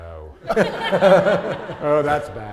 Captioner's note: audience laughing